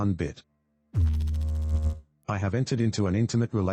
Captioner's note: electrical noise